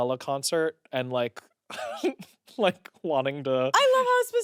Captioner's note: laughs